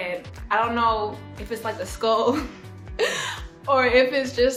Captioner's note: laughing